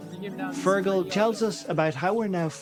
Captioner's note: voice-over